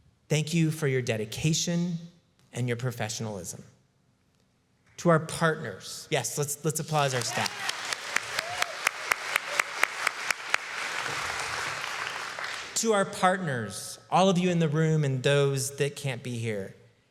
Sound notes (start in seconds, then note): 6.8 applause